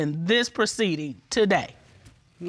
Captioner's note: none